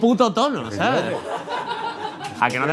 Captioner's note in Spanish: Risas